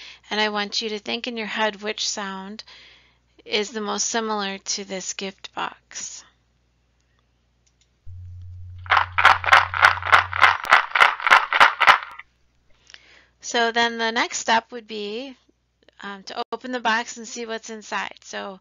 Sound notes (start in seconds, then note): 8.1 shaking sound